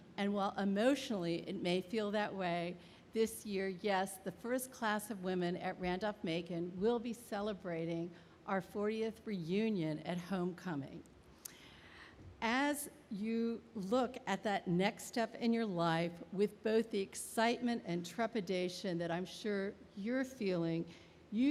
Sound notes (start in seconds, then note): none